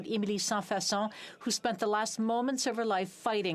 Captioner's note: speaking French